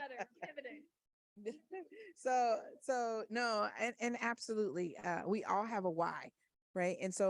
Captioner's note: laughs